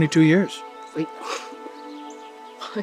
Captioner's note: chuckles